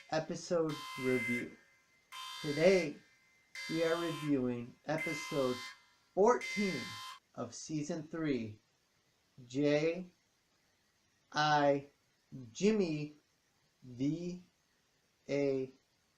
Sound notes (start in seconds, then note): 4.9 alarm stops